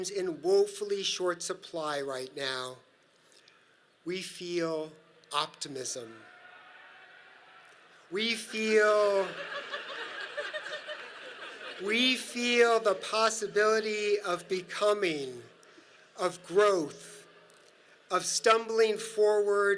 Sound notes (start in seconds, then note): 6.2 audience laughs; 6.2 crowd cheering in distance; 8.5 audience laughs